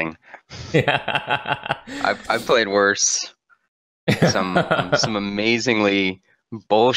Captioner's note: cute laugh